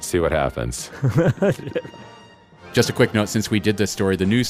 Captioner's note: laughs